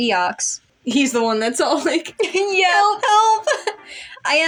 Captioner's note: giggle; chuckle